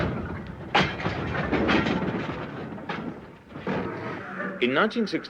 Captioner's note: train passes